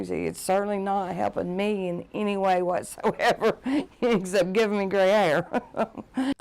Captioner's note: laughing